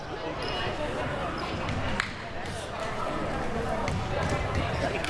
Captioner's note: audience chattering